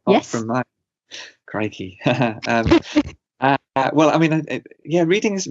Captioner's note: both laugh